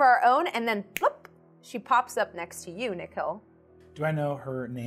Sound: snaps fingers

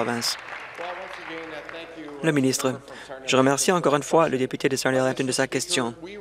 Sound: applause

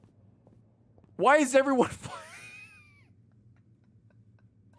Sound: laughs

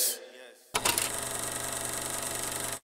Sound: film projector rolling

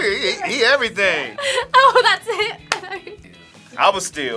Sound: laughs; claps

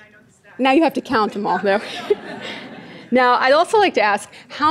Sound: audience laughing

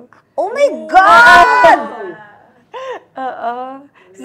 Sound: laughs

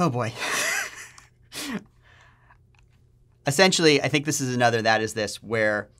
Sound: laughter

